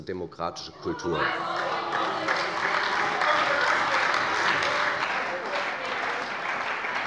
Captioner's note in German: Beifall bei der CDU - Lachen bei Abgeordneten der SPD